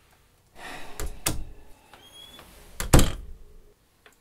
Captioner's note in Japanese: ため息; ドアが開閉する